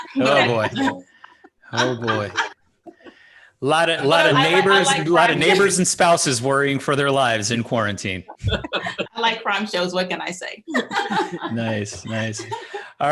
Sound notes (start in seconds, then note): 2.6 laughing; 8.0 laughing; 10.7 laughing